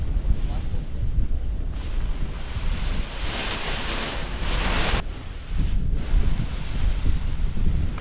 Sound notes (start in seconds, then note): 1.7 paraglider crinkling